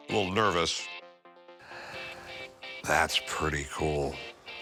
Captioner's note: exhales